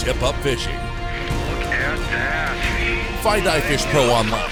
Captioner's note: voiceover